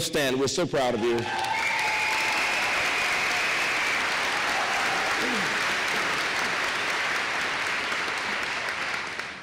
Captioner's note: applause